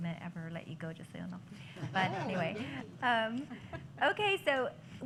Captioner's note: laughter